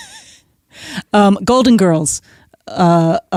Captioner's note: chuckles